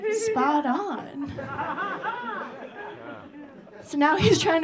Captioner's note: audience laughing